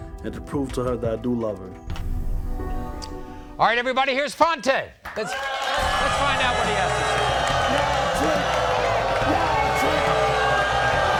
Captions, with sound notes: and to prove to her that I do love her. - Alright everybody, here's Fonta. Let's find out what he has to say. (audience oohs) - Yeah, that's right.